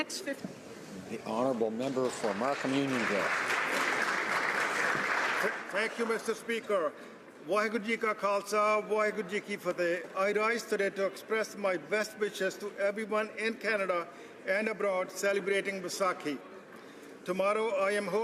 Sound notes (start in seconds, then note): 12.0 speaking alternate language